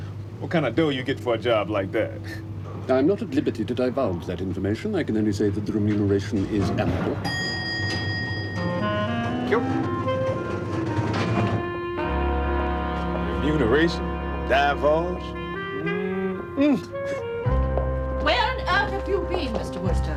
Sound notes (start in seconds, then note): 7.2 elevator bell